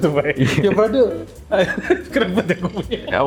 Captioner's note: again with the same accent